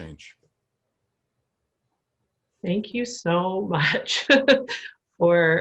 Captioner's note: laughter